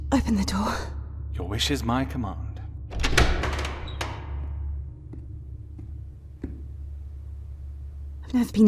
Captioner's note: lock turning, door opening